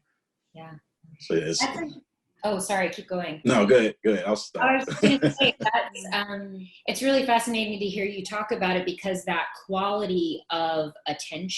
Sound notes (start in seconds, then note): 4.6 laughs